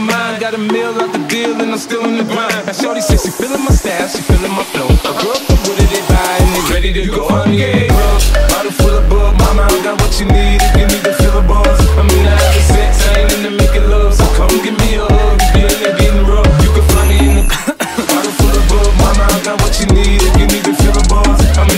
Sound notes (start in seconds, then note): 17.4 cough